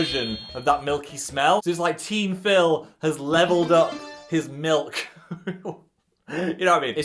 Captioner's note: chuckles